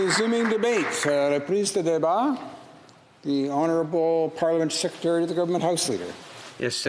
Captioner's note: applause